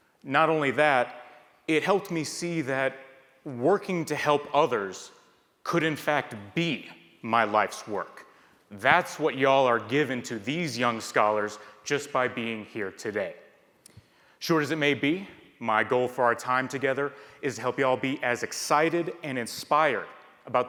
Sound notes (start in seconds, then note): none